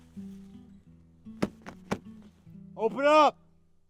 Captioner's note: thumping